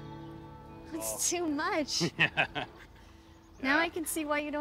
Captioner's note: laughs